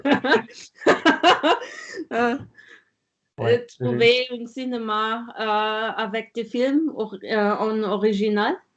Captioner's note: laughing